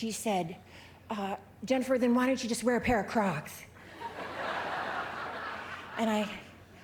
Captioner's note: laughter